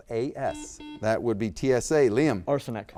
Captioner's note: buzzer beeps